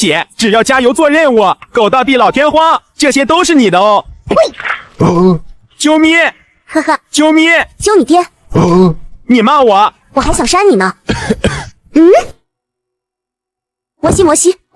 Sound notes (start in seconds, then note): 5.1 smooch; 6.4 kiss; 11.0 clears throat